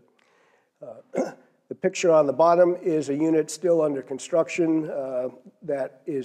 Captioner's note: cough